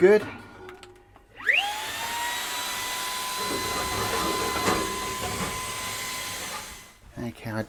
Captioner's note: vacuum Cleaner Sound